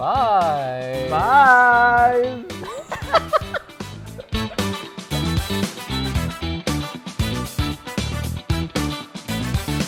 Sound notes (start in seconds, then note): 2.8 laughs